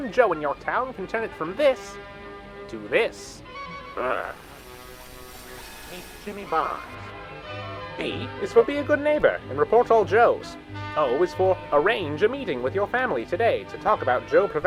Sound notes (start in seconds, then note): 3.8 distorting